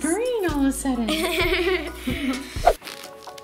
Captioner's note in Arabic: يضحك